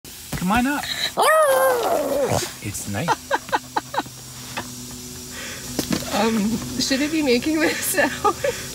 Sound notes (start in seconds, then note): 1.4 roar; 3.0 laughing; 4.2 hissing sound